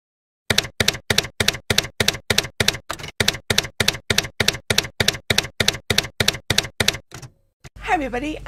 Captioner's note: typewriter keys clacking